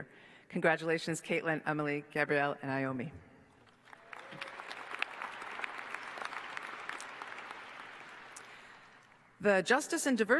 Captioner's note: applause